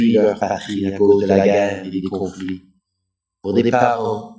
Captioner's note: french